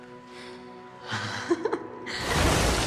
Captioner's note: both chuckle